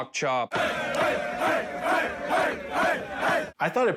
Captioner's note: boys chanting